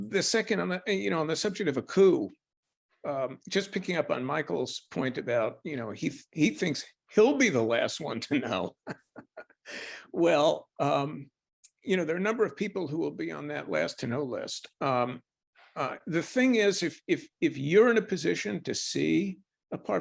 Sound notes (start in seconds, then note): 8.3 laughs